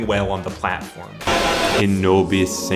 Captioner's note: static; chanting